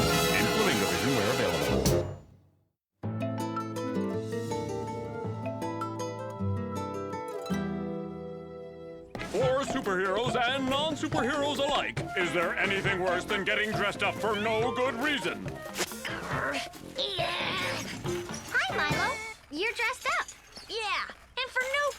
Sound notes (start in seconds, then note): 5.8 soft acoustic guitar music; 16.0 Milo grunts